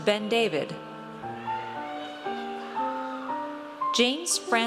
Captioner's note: audience cheers